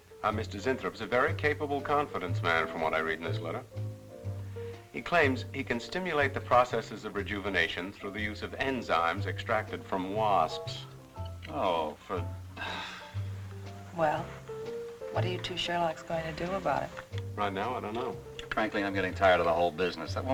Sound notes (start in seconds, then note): 12.5 sighs